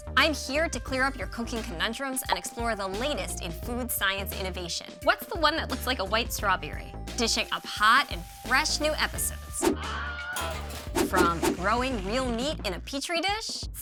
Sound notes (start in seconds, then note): 9.8 man screaming; 10.4 dishes clinking